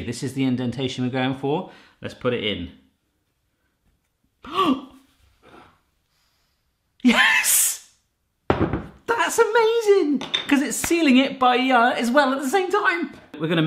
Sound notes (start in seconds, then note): 4.5 gasps